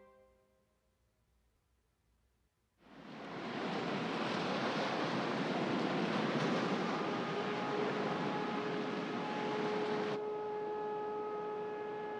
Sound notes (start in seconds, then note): 2.9 waves crashing; 6.7 air raid siren blaring